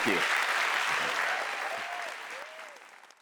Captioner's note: audience applauding